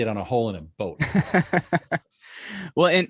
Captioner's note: both laughing